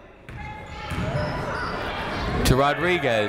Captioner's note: people shouting in the crowd